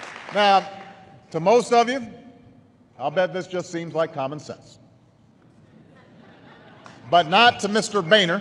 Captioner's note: laughter